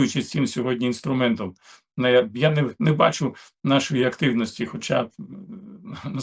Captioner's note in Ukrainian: прочищення горла